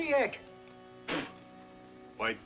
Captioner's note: spits